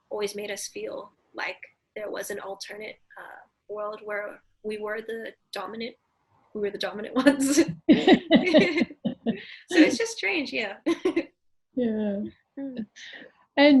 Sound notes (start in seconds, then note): 7.2 laughs; 11.2 laughs